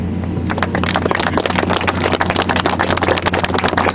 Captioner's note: applause